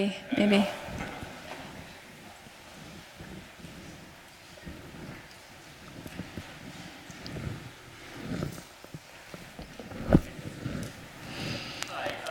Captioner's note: silence